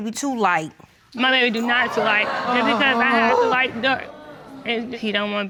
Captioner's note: audience groaning